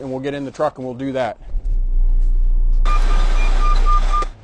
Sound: truck backing

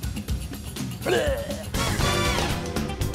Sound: roars

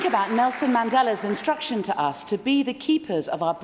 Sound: applause

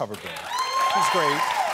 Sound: applause

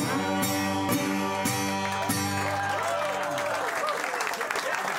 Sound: cheers and applause

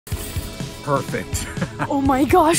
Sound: laughs

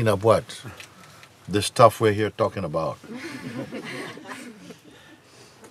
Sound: Lachen

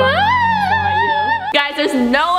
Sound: imitates screaming

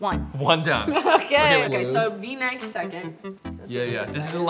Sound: laughs

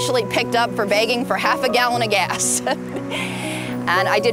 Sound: laughs

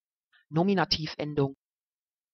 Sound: fast Pronunciation

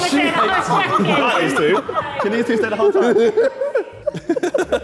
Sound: Sidemen laughing

